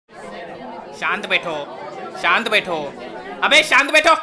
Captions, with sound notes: *Crowd chatters* Please maintain silence Please maintain silence Shut up!